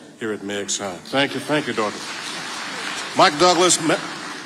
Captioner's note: audience applauding